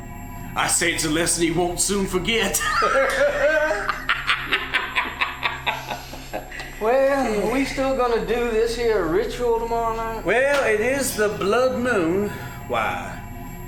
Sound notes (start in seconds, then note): 2.4 cackling laughter